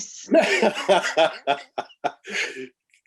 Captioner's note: laughing